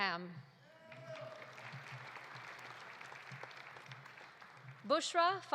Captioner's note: audience applauding; audience cheering